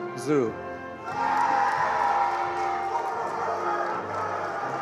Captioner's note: attendees applauding